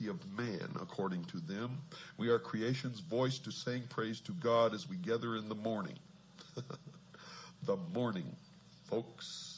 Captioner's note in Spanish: Risas